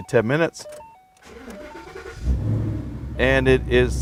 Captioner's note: car starting